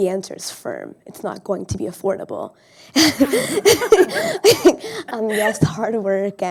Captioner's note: laughs